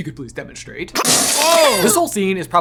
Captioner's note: water gushing